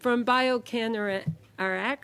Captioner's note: speaking FRENCH